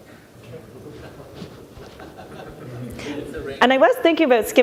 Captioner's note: laughing in the audience